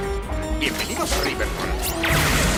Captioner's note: reads the sign in a sort of Don Adams impression in spanish